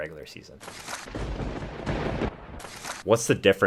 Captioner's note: thunder rumbling